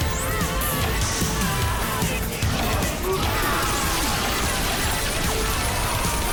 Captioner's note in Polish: futurystyczne szusy ôd gwerōw, ludzie wrzeszczōm ôd bōlu